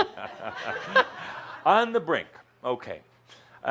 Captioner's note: chuckles